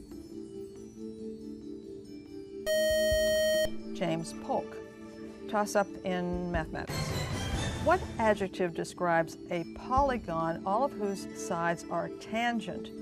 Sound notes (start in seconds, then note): 2.6 buzzer